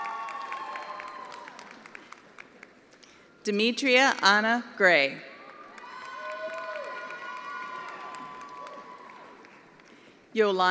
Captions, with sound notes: Ahmed Baluli. (attendees applauding) Demetria Anna Gray. (attendees applauding)